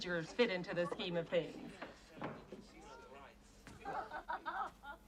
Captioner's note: Дверь открывается